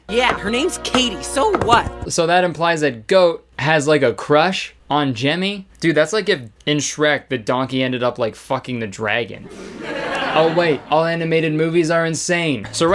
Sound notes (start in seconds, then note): 9.4 crowd chuckling